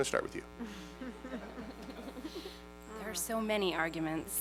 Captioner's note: laughter